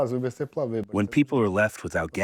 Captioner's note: through translator